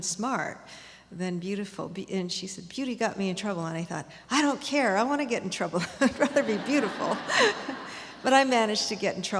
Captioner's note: laughs